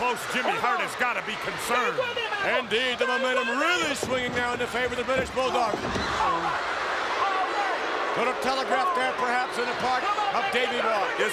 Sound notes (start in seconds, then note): 6.0 fighters groan